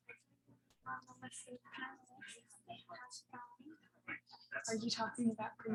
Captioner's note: people chattering indistinctly